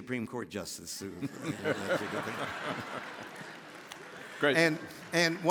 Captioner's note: all laughing